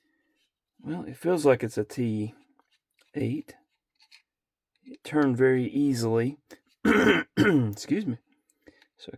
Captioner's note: clears throat and cough